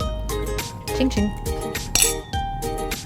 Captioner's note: glasses clinking; happy music